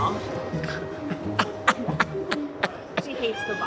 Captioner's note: laughing